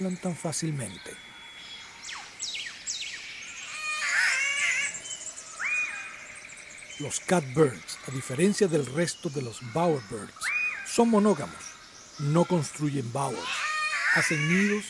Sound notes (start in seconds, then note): 1.5 catbird call